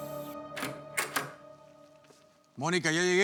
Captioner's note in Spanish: sonido de la puerta